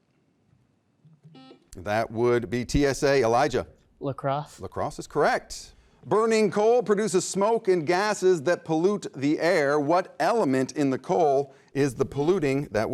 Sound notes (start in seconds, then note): 1.3 beep